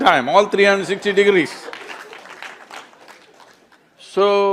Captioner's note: laughter/Applause